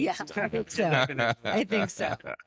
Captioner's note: laughing